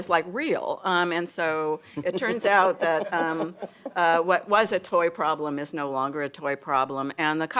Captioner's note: laughter